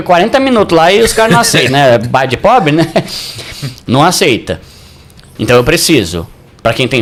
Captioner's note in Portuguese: risadas